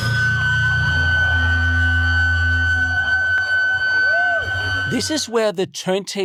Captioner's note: violent feedback on stage